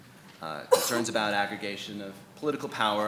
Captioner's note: sneezes